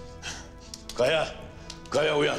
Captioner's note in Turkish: Vurma sesleri